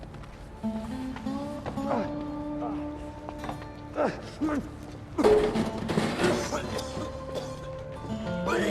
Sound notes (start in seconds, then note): 3.9 retching